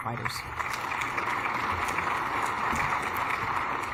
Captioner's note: applause